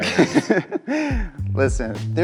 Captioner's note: chuckling